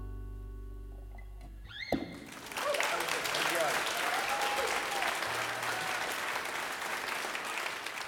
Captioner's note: applause